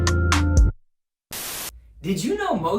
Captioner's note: static hissing